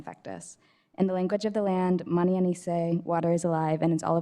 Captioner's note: another language spoken